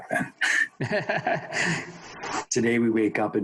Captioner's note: chuckles